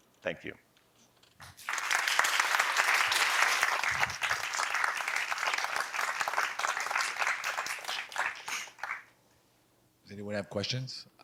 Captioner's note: applause